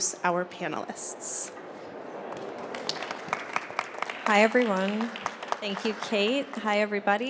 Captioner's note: applause